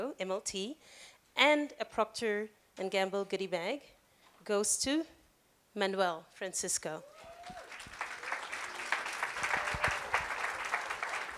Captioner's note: applause